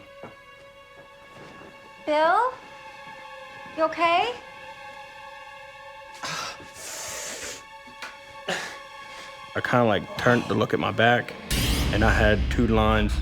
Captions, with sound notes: - Bill, you okay? (groaning and wincing) - I kind of turned to look at my back and I had two lines.